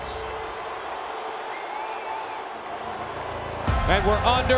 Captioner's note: crowd cheering